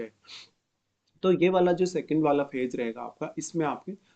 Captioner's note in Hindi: नाक से की जाने वाली आवाज़